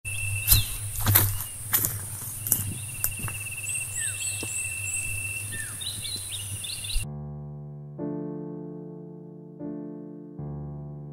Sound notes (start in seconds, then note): 0.1 footsteps